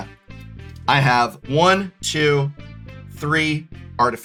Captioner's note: counting